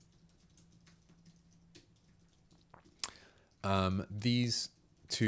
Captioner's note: silence